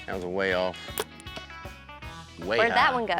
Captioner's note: arrow shot